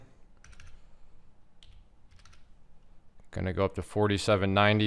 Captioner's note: keyboard clacking